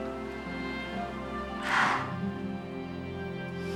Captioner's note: sighs